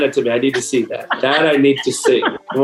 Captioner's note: laughs